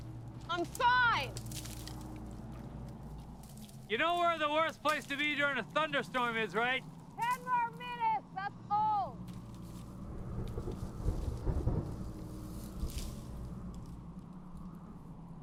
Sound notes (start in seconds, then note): 9.8 thunder rumbling